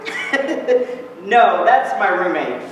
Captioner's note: laughs